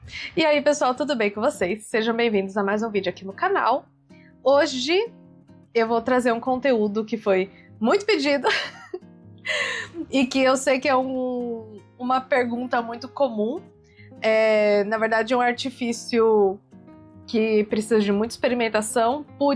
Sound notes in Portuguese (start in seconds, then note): 8.4 risadas; 9.5 suspirando